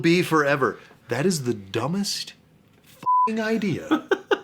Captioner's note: beeping